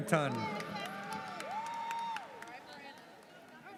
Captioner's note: audience cheers